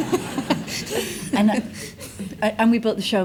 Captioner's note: audience laughs